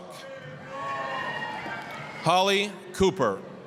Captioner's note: applause, cheering